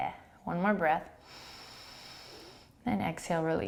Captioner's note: inhaling